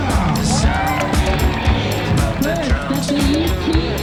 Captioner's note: crowd cheers